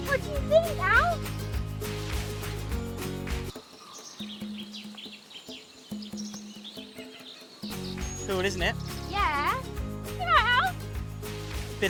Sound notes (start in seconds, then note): 3.8 birds chirping; 3.8 pensive music; 7.8 bright music